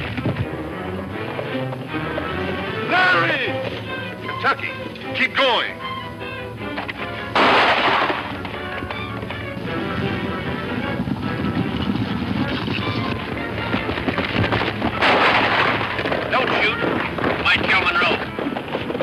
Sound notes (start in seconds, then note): 7.3 gun fires; 14.9 gun firing